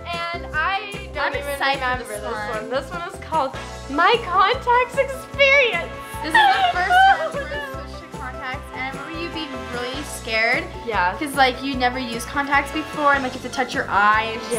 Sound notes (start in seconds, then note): 6.2 laughs